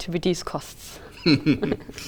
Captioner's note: laughter